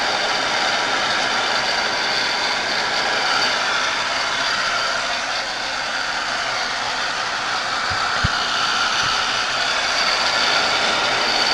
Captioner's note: sound of a Heat Gun